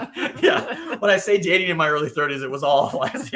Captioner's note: laughing